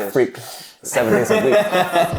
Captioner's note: laughing